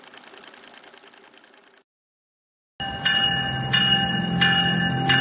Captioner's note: film reel clicking; train bell